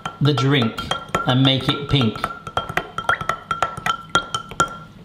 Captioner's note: stirring